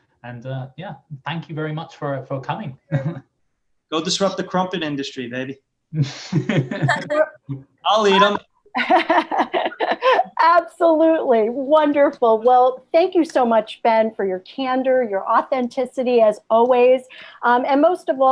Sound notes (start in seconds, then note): 6.1 laughter